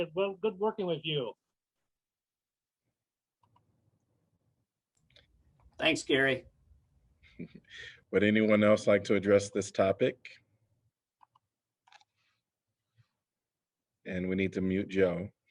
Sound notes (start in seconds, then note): 7.3 laughter